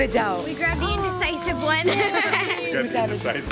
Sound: laughs

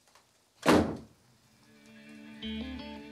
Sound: door slams

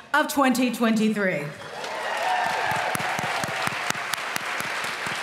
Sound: applause

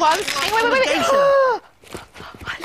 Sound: gasps

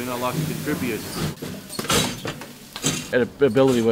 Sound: machinery noise

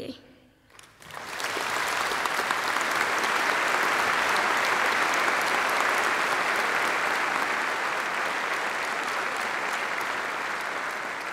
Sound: applause

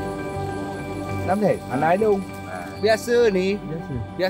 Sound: speaking Aceh

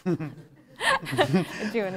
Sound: laughter

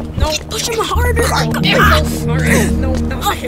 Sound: grunting

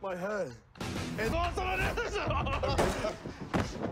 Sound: cunning laugh

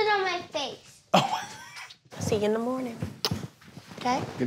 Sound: laughs

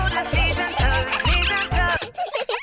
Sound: giggling; music stops

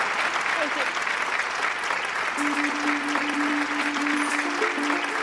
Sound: applause

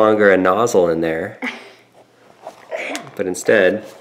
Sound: laughing

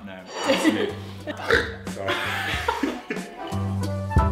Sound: burps

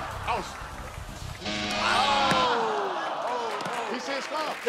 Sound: all groaning

